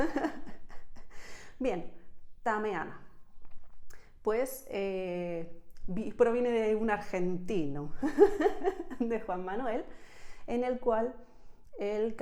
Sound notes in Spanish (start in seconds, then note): 8.0 risas